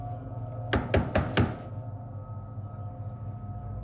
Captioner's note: knocking